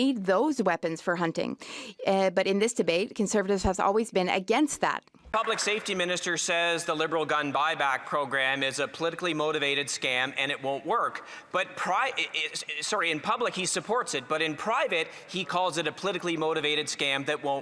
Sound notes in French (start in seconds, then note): 6.1 voix de l'interprète